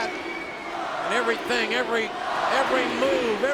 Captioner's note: crowd chanting